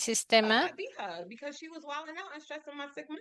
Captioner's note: hablando inglés